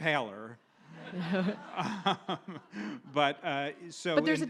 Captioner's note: audience laughs